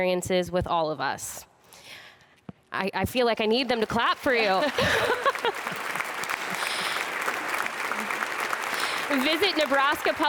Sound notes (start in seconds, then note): 4.5 laughter; 8.0 applause